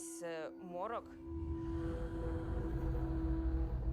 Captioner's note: ghostly sigh